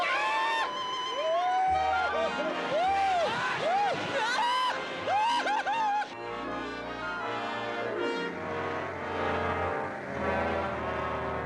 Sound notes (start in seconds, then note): 0.2 screeches, yells; 3.8 Hoss screeching, yelling